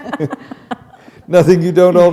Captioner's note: chuckle